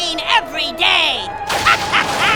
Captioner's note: evil laugh